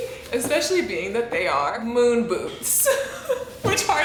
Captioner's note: laughs